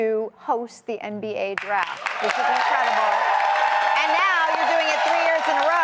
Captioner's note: applause